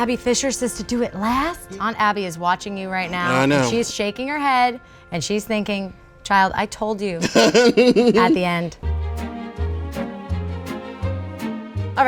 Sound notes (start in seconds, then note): 7.2 laughing; 8.8 playful music